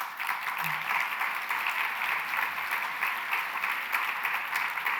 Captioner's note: applause